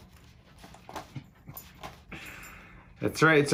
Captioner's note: laughs